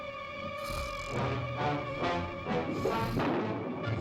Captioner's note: Barbara snoring; gentle upbeat music